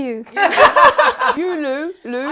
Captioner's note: all laughing